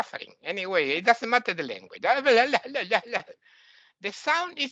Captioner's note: imitates Arabic; imitates foreign language